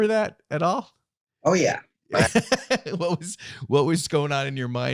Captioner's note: laughs